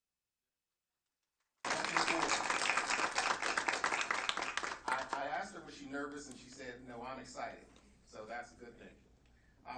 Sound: clapping

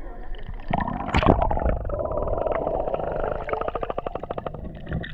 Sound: under water noises

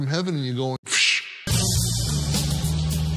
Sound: upbeat jazz music; exhales sharply

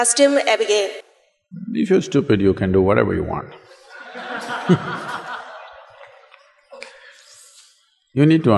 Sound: laughter

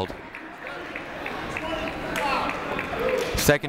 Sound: crowd applauding

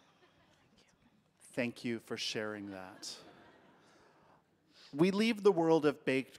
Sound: audience laughing

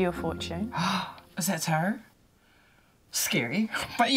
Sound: gasps

